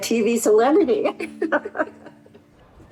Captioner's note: laughter